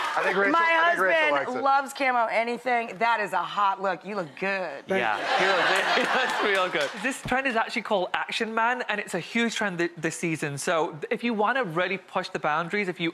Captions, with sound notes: My husband loves camo anything, that is a hot look, you look good. (audience laughs) This trend is actually called Action Man, and it's a huge trend this season. So, if you wanna really push the boundaries, if you